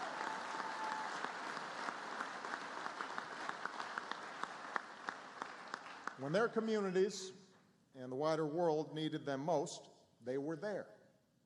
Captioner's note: applause